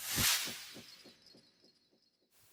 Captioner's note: sound effect